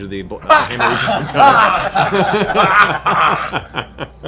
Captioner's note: pained noises